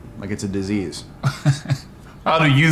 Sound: chuckles 😂

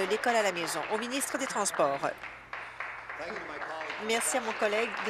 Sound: applause

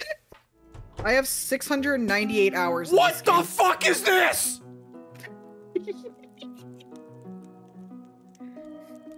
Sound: giggles

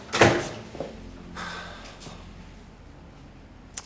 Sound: nicola's sigh

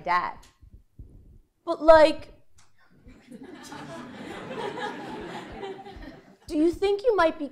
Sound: laugh

